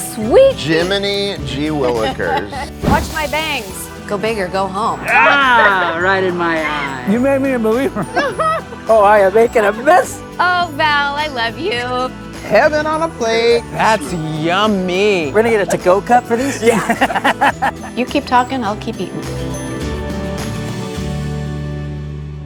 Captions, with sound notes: Sweet Pete. - Jiminy gee willikers! - Watch my bangs. Go big or go home. - Ah, right in my eye. You made me a believer. Oh, I am making a mess. - Oh, Val, I love you. - Heaven on a plate. That's yummy. - We're gonna get a to-go cup for these. - Yeah. [all laughing] - You keep talking, I'll keep eating. [cheerful uplifting music]